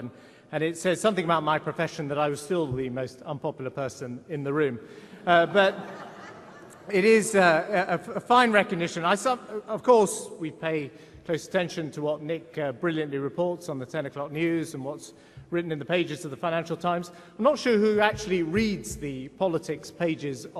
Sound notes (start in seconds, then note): 5.2 laughs from audience